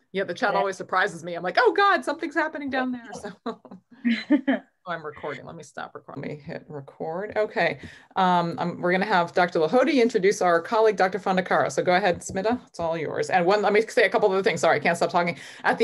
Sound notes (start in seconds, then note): 4.0 chuckles